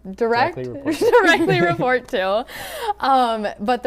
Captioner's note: laughing